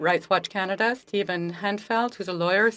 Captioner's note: speaking French